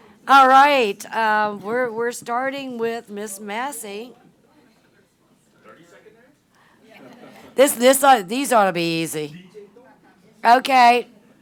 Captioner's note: conversation in the audience